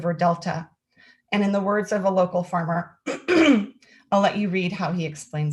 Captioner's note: clears throat